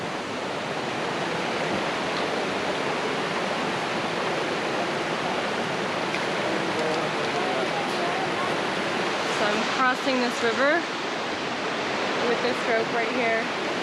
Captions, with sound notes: (Water roaring) So I'm crossing this river with this rope right here.